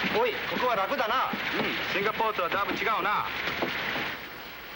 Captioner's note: speaking foreign language